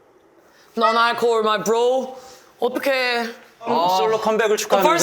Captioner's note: cheers with alcohol-free beer